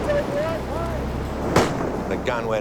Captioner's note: starter shouting; bang